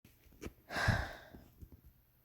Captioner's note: sighs